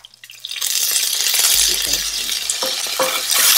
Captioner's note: onions sizzling